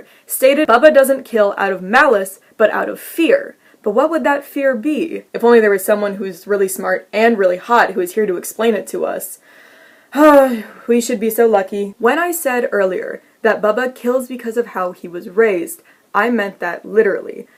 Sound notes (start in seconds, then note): 10.4 sigh